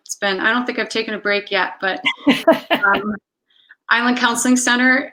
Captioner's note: laughs